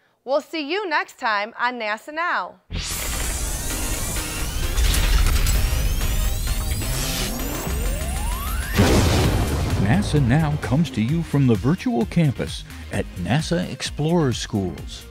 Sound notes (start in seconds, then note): 2.7 sound Effects